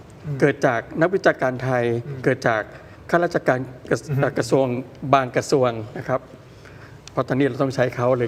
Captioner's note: takes a breath